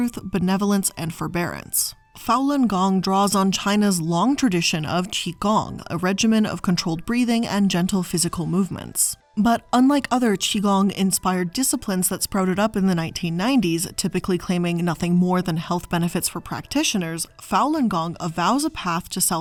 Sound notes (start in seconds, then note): none